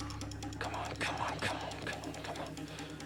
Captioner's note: whispering